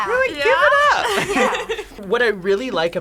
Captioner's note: group laughs